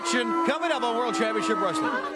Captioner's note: crowd chatter